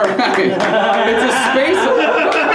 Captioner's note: laughter